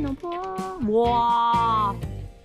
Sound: laughing

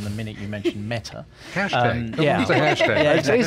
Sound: laughs

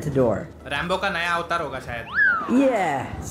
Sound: non-english speech

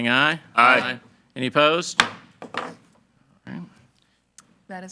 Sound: gavel thuds

